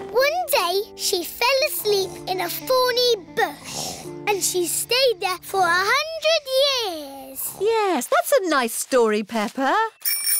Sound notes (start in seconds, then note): 7.1 snoring; 10.0 bell ringing